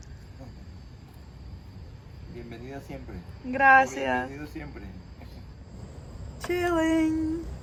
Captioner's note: in Spanish